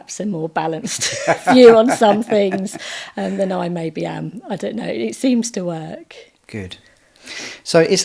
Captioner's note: laughing